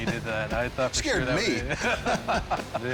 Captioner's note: laughter